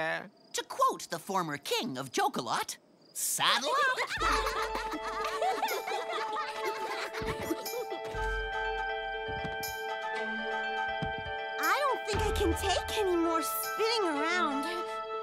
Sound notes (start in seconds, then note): 3.6 giggles